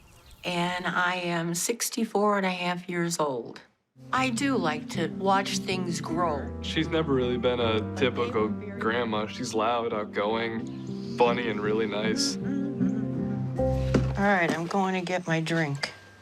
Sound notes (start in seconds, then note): 11.1 humming